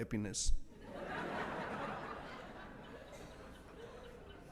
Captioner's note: audience laughs